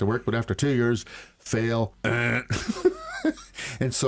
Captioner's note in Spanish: Risas